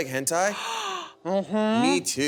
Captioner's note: Frite gasping